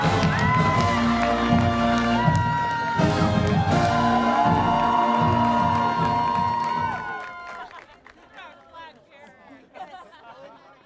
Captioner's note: cheers and Applause